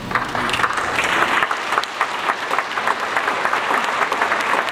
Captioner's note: audience applauds